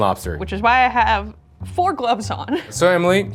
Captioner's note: chuckles